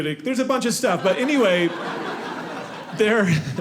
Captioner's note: audience laughing